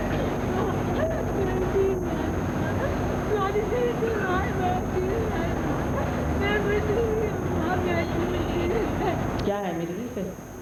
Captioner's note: A woman cries and mutters something incoherent